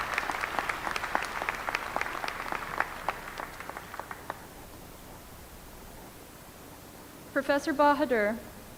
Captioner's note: applause